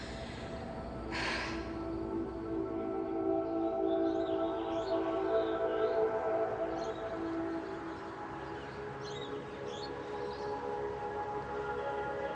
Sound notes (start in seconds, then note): 1.0 dramatic music; 3.9 birds chirp